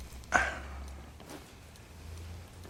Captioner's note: exhales sharply